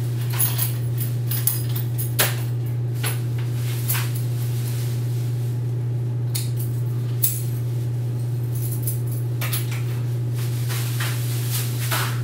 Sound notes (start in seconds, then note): 0.2 key sounds; 8.4 key sounds